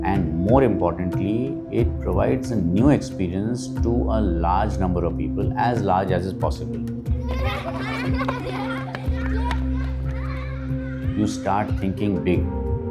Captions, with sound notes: and most importantly, it provides a new experience to a large number of people as much as possible. [Children laughter] You start thinking big.